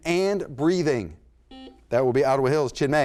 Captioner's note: buzzer sounds